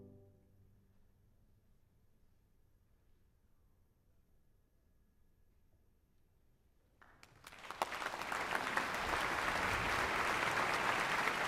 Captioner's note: applause